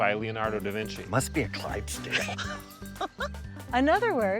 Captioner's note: laughs